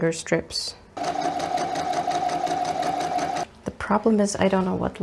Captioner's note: sewing machine noises